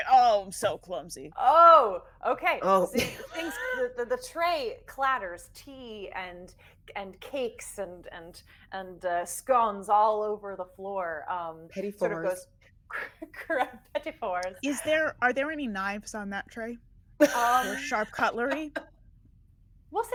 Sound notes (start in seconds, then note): 3.2 chuckles; 17.2 laughing